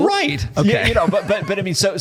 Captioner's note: laughter